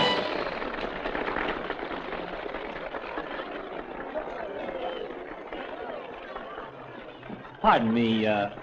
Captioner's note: applause